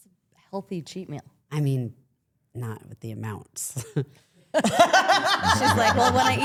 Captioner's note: laughs